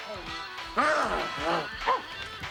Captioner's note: grumbles and groans